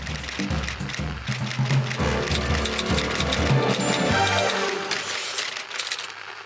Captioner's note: light playful music; typewriter clacks